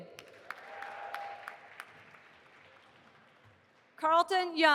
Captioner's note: audience applauding